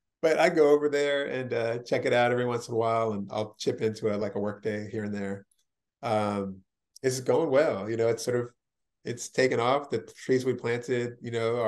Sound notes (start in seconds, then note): none